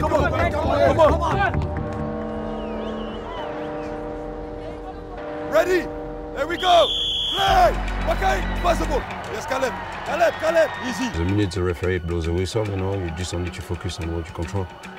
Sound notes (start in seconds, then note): 2.3 suspenseful music; 6.4 whistle blows